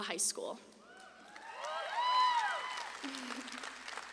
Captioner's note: audience claps and cheers; giggles